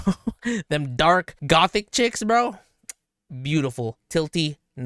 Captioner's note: chuckles; lip smacks